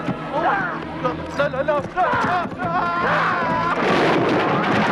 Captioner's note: villager shouting; stall clattering